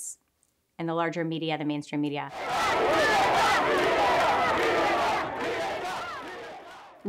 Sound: all chanting "Libertad!"

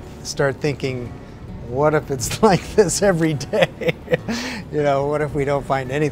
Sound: laughs

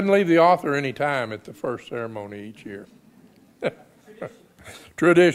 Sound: laughs

